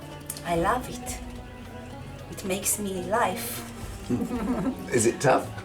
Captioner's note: laughs